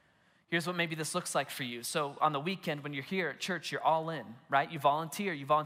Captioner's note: none